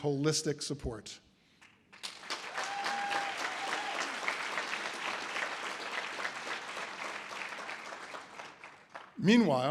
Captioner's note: audience applause